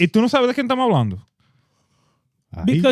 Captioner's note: speaking In Foreign Language